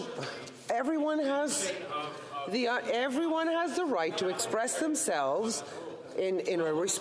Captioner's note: off mic